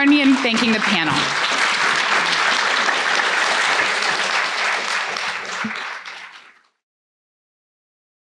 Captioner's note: applause